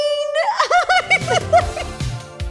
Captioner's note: laughs; upbeat music starts